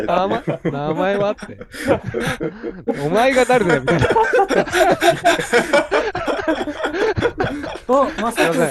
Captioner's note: laughter